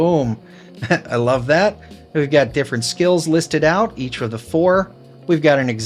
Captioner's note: chuckles